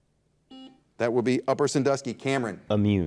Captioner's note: buzzer dings